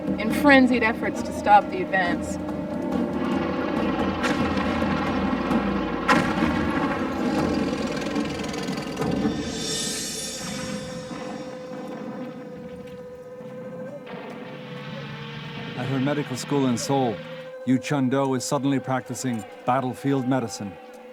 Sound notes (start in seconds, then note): 3.2 explosions blasting; 3.6 tanks rumbling; 10.0 gentle music